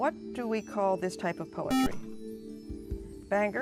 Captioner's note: buzzer